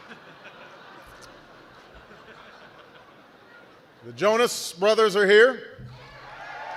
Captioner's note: laughter; applause